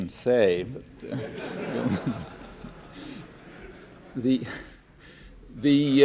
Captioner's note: laughter